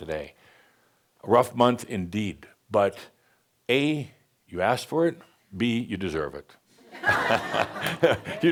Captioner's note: laughter